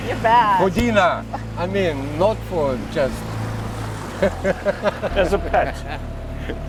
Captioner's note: laughs